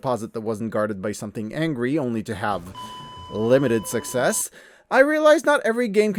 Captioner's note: flatline noise